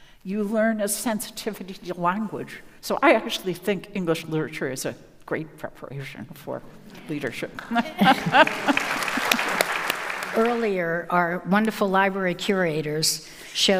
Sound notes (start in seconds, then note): 7.5 laughs